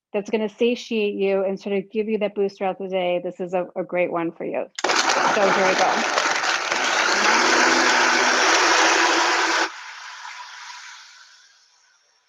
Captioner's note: whirring